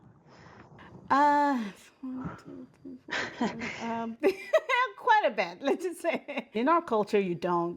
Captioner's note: laughter